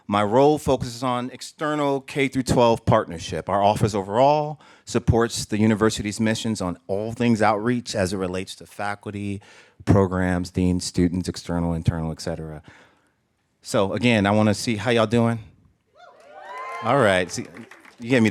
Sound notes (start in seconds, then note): 15.9 cheers; 16.1 applause